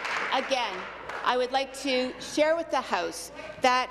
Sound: applause

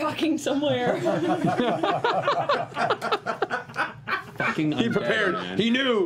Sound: laughter

